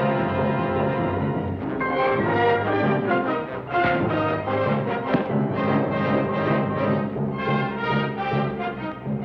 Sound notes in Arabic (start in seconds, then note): 5.0 صوت ارتطام